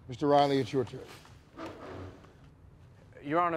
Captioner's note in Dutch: stoel schraapt